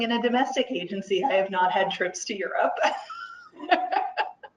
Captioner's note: laughs; laughs